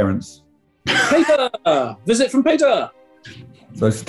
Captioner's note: laughing